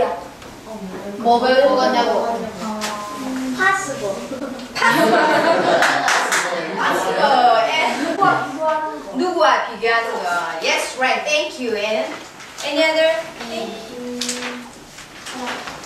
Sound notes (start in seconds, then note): 0.2 speaking foreign language; 4.3 laughing